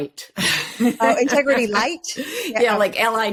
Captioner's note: laughs